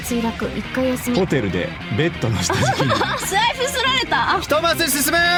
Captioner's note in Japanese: 笑い